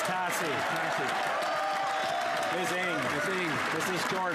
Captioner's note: some Applause